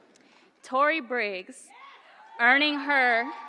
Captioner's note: applause